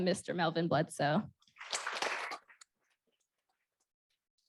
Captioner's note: applause